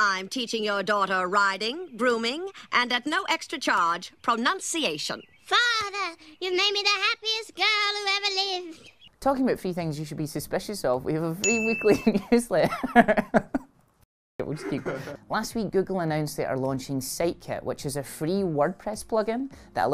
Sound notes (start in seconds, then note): 12.7 laughs